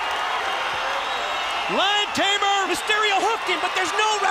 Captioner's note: crowd cheering